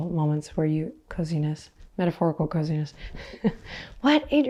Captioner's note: chuckles